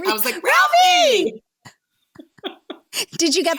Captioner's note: laughing